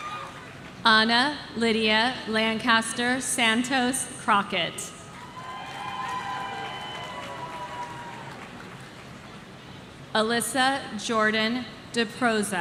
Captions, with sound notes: Anna Lydia Lancaster Santos Crockett. (audience cheering) Alyssa Jordan Deproza.